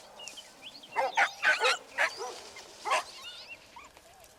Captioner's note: dogs barking